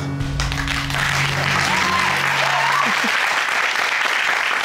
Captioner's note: audience applaud